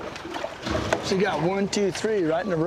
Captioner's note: splash